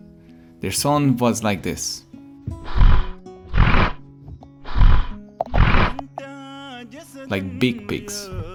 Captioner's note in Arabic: صوت فرس النهر